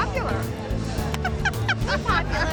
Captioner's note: laughing